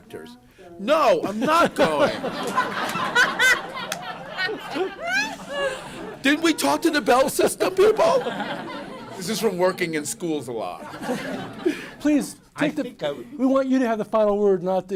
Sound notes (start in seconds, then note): 2.7 laughter